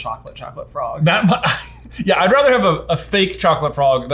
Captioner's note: laughs